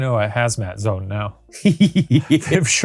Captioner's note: laughing